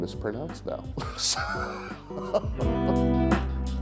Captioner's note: chuckles